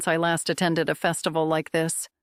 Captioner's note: voice-over